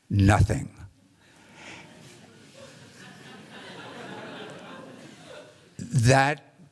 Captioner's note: laughter